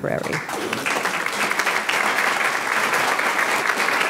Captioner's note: audience clapping